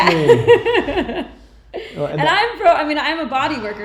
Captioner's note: laughing